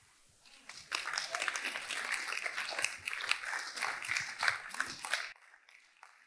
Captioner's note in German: Applaus